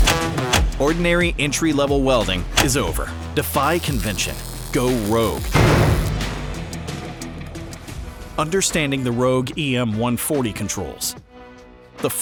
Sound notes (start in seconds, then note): 5.5 metal slamming